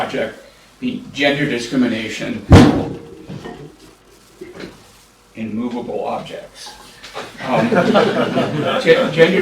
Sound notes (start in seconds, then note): 2.5 thunk; 7.2 laughter